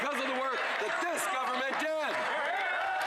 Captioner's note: crowd Noise